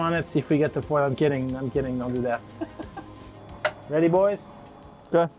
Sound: laughing

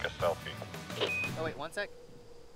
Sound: radio beeping

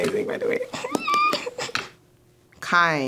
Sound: claps while making cute noises

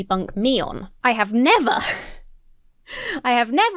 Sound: chuckles

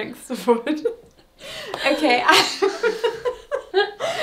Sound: laughs

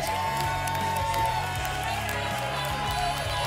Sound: applause and cheering

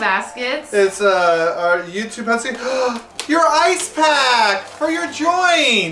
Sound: gasp

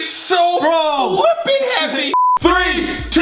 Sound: beep

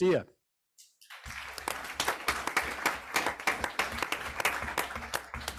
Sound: group applauds

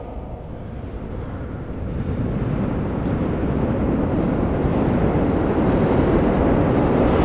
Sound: announcement on p.a. speakers; echoing subway sounds

